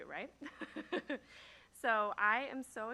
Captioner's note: laughs